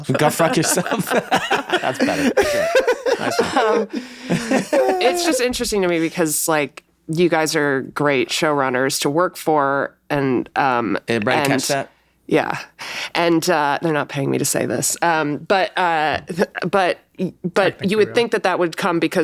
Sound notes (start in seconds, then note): 3.8 everyone laughs